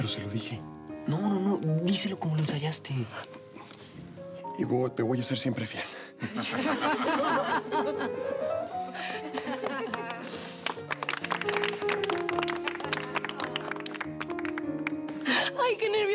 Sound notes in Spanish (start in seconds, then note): 9.1 risas; 15.5 aplausos